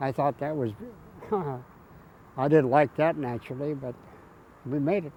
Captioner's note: chuckles